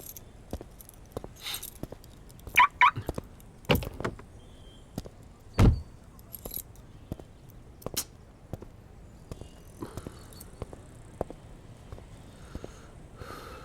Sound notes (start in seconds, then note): 2.5 car alarm chirps